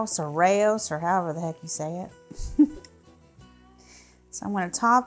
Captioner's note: giggling